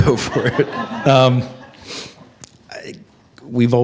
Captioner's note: attendees laugh